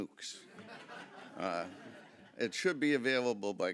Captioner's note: audience chuckling